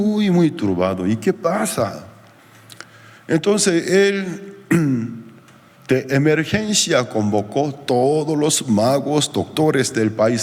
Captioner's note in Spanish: carraspeo